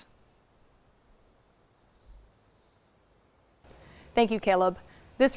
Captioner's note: birds singing